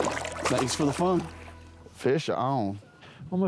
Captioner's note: water splashes